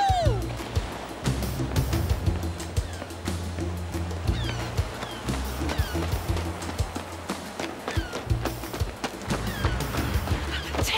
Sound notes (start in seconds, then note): 4.4 footsteps crunching